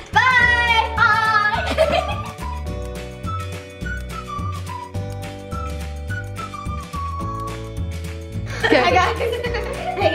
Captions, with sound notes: Bye! - Bye! (laughing) (cheerful music) - I got this.